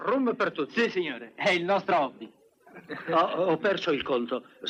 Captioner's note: laughs